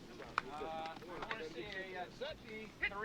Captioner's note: indistinct chatter